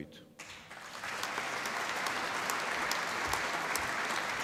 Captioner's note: applause